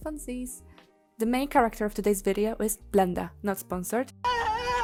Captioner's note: screaming